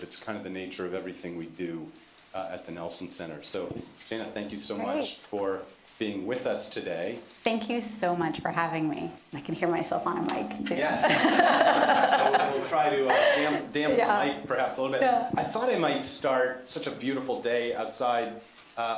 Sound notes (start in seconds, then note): 10.8 laughter